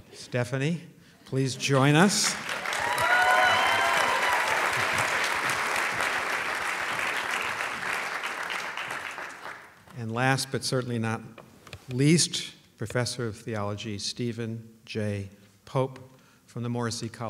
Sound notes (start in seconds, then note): 2.1 applause